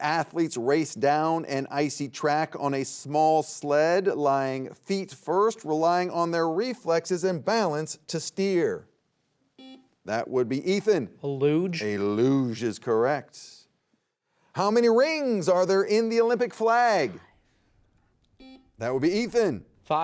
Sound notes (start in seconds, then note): 9.6 buzzer beeping; 18.4 buzzer beeping